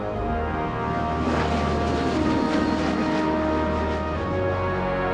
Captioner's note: airplane propellers